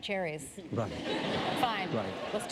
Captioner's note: laughter